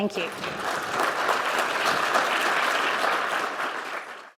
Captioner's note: audience applauding